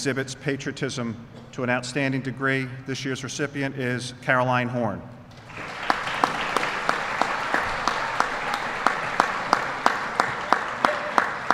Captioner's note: applause